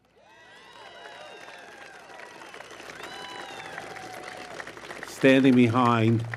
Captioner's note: applause